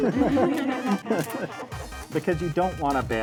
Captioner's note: and students laugh